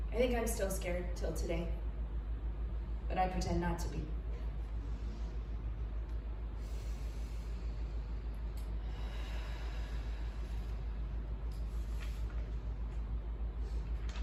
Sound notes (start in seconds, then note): 6.6 inhale; 8.6 exhale